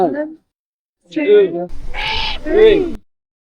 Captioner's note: Screech